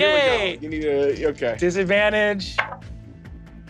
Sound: dice rolling

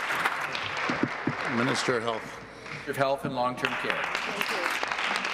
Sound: applause

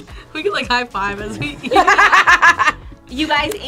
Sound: laughs; both laugh

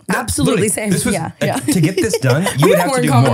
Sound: laughing

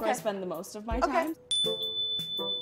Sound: chime dings

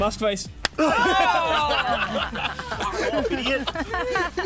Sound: all laughing

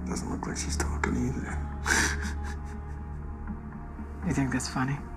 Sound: laughs

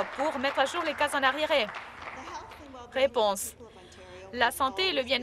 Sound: some Applause

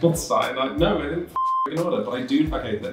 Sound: beep

